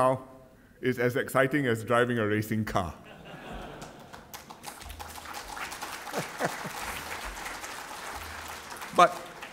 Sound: applause

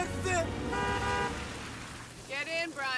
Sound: horn honks

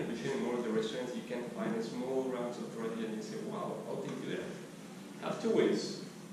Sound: talking behind microphone static

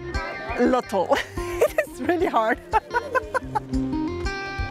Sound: laughs

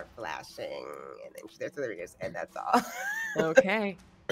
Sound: laughs

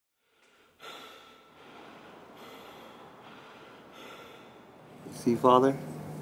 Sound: hard breath

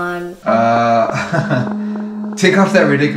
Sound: nervous laugh

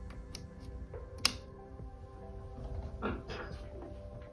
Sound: clicks

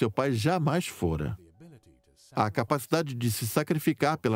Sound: voiceover

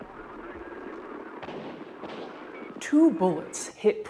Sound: radio call chatter; gunfire popping

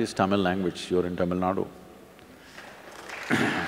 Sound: applause

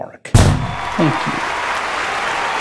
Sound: explosion; crowd cheering

